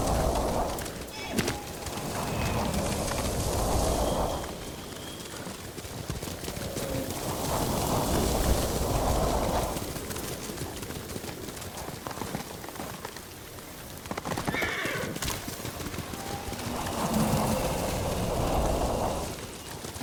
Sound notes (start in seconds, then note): 0.0 thunder rumbling; 14.4 horse neighing; 15.2 thunder rumbling